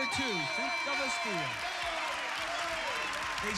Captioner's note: cheers